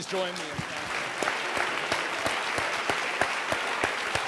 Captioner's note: audience applauds